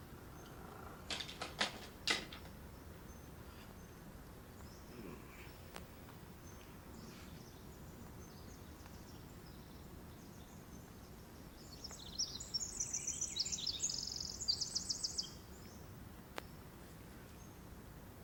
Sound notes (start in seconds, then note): 9.4 morning Birds Chriping